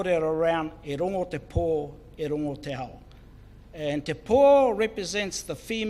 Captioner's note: speaks in foreign language